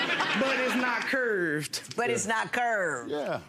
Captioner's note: audience laughing